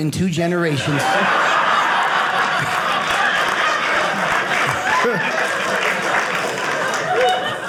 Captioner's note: audience laughing